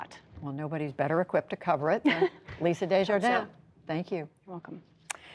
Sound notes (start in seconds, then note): 2.0 laughter